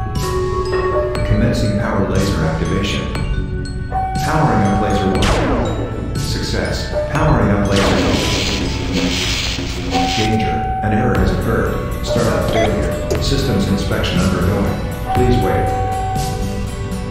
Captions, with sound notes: *Announcement Chime* ASAS: Commencing power laser activation. Powering up laser 1. *Laser firing sound* Success. Powering up laser 2. *Laser firing and missing* *Static sounds* ASAS: Danger, an error has occurred, startup failure. Systems inspection undergoing, please wait.